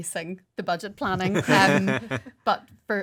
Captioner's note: laughing